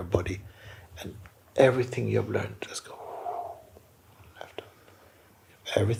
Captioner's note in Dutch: lange uitademing